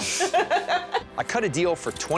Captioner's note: laughs